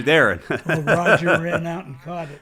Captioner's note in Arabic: يضحك